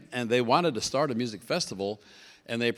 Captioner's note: none